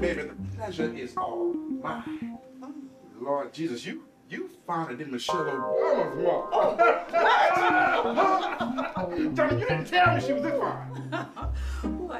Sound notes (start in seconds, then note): 6.6 everyone laughs